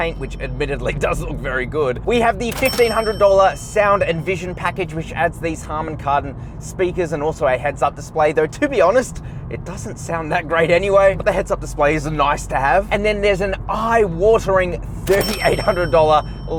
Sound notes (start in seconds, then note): 0.0 bell rings; 2.5 bell rings; 15.0 bell rings